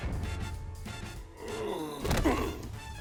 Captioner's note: groaning